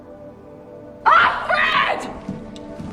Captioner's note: voiceover; shouting